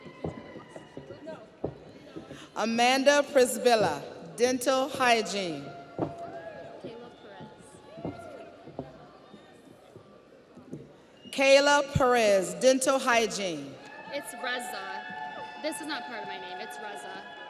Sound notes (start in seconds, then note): 0.0 audience cheers; 6.1 audience cheers